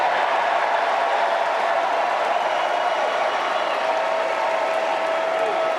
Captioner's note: applause